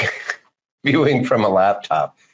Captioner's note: laughing